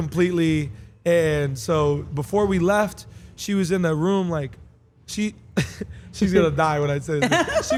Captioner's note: laugh